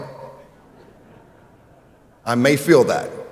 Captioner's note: audience laughing